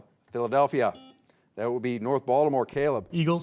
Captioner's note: buzzer beeps